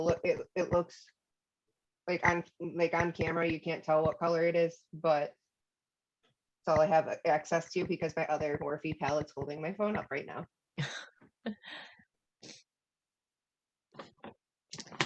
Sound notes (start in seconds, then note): 10.8 laughter